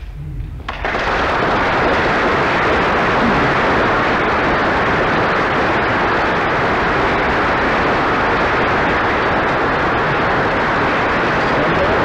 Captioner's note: applause